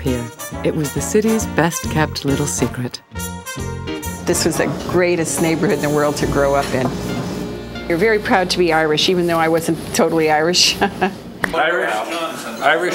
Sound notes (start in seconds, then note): 10.7 chuckling